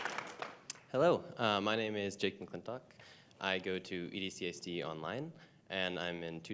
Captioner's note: applause